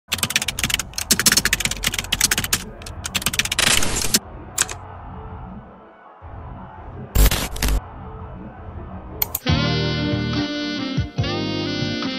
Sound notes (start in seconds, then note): 0.0 keyboard keys clicking; 9.3 jazz music